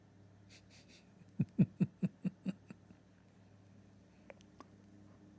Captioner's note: Ketawa